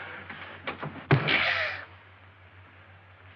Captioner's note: whack